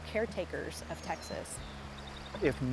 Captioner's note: birds